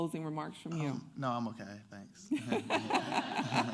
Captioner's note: laughter